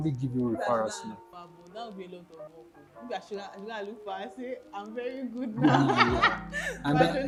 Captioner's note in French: rires